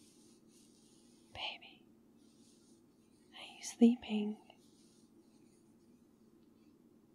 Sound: whispers

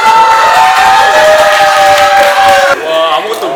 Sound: cheers

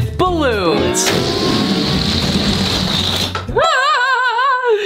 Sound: balloons deflating; laughing

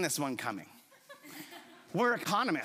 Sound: chuckles

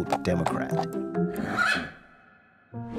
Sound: whinny sound

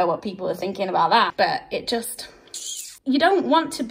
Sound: sucks teeth

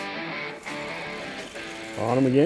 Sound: fishing line whines

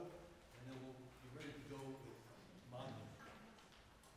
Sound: faintly speaking

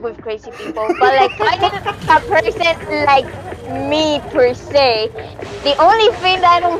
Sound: laughing

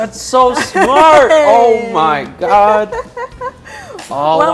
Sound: laughs

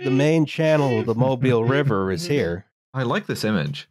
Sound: chuckles

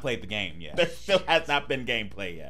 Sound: laughing

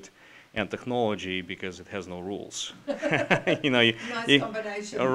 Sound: laughs

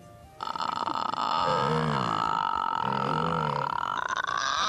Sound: croaking; clearing throat

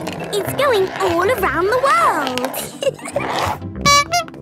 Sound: giggling; honking

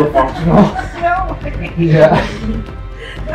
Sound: laughing

